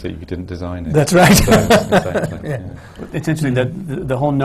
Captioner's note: laughter